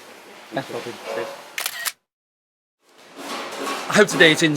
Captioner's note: camera clicking